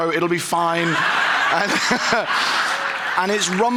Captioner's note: audience laughing